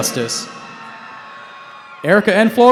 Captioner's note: cheering